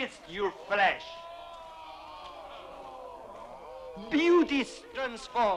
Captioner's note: chieftains exclaiming